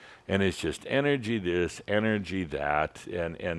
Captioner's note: none